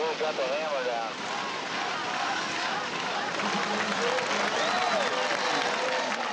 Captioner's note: applause and cheering